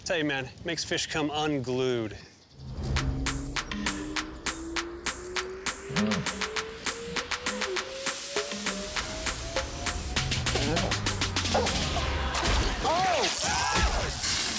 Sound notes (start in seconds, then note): 2.6 rising whistle tone; 11.4 dog barking